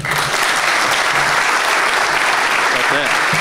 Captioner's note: applause